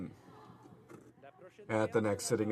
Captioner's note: speaking French